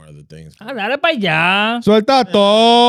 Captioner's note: speaking In Foreign Language